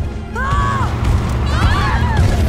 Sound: all scream; screams

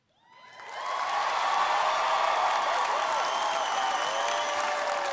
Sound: audience cheers and applauds

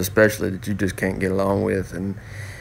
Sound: none

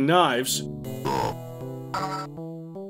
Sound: burp sound

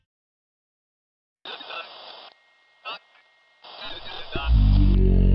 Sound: radio chattering

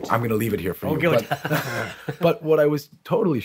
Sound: laughing

